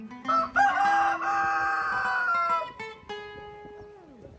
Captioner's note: rooster Crowing